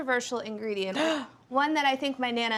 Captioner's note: gasps